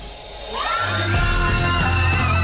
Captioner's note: cheerleaders yelling